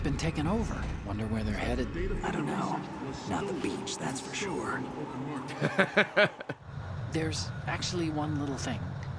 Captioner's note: laughs